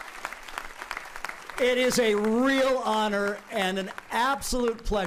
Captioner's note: applauding